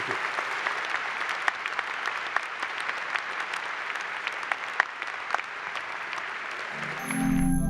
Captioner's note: applause